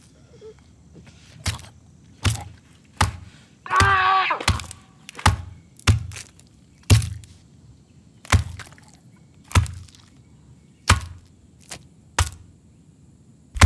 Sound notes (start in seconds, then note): 1.5 smashing sounds; 3.6 screaming; 6.9 more smashing